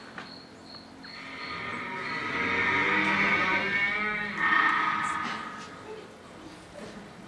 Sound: door creak

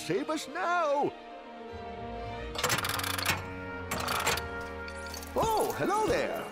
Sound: repair Sounds

